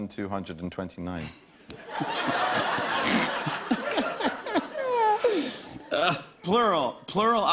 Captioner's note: laughter